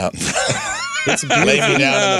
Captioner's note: laughing